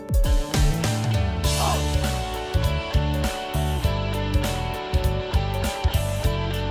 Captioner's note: haha